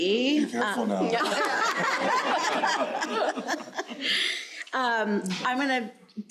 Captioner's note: crowd laughing